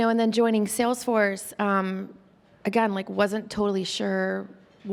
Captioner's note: none